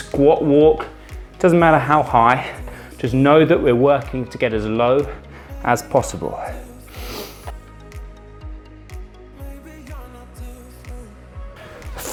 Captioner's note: snorts